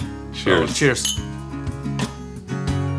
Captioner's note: glasses clinking; soft music